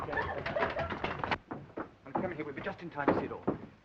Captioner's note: giggling